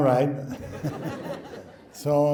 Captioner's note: laughing